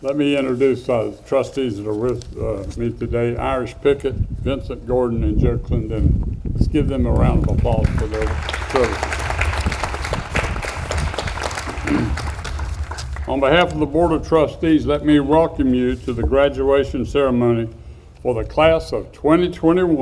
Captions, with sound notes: Let me introduce those trustees that are with me today. Irish Pickett, Vincent Gordon, and Joe Clendenin. Let's give them a round of applause for their service. (audience applauds) On behalf of the Board of Trustees, let me welcome you to the graduation ceremony for the Class of 2021.